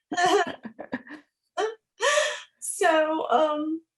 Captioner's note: laughing